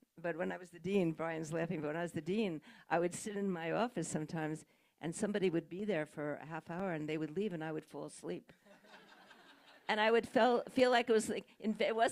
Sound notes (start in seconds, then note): 8.8 audience laughing